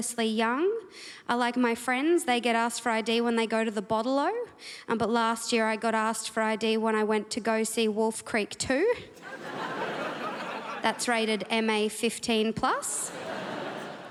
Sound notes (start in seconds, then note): 9.1 crowd laughs